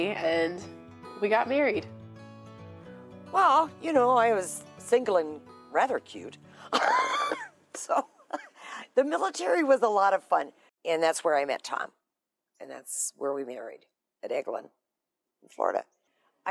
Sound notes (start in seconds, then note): 6.7 laughing